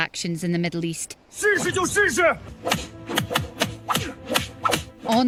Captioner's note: objects thudding